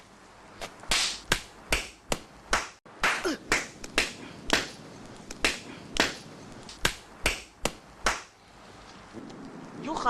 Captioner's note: righteous slapping noises